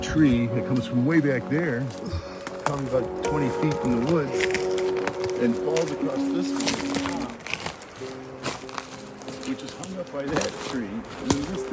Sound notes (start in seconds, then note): 4.1 speaking faintly; 6.4 footsteps drowns out speakers